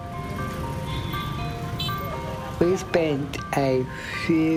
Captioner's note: bells and traffic sounds